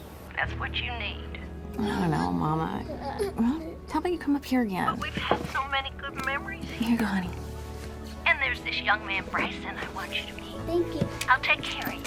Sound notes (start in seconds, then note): 2.9 children straining, grunting